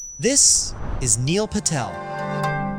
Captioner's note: ding